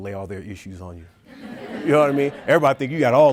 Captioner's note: audience laughing